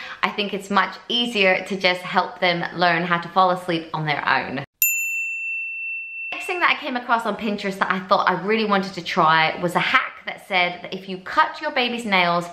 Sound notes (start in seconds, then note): 4.8 bell dinging